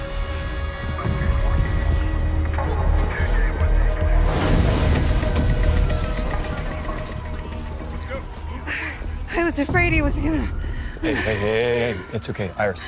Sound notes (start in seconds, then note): 3.1 sirens wailing